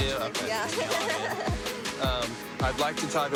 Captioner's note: nervous laughter